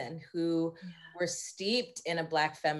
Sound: none

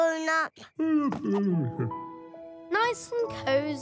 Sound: Grown Up yawns

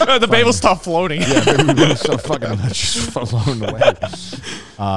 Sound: group chattering

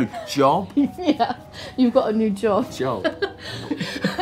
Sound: laughs

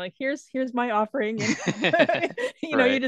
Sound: both laughing

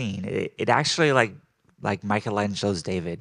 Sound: none

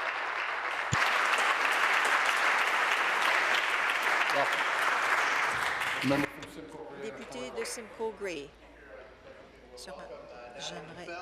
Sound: applause

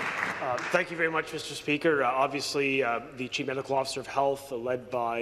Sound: some Applause

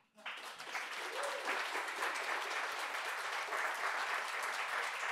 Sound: people clapping

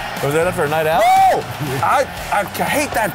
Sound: screams

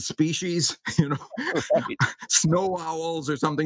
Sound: laugh

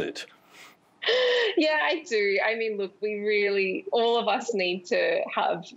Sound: laughs

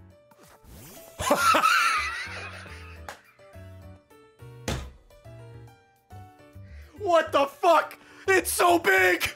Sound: laughs

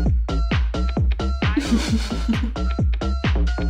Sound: chuckles

